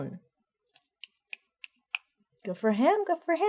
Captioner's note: snapping fingers